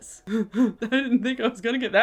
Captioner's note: laughs